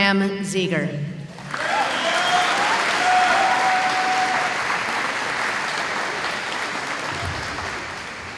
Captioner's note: applause